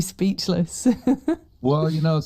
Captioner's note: laughs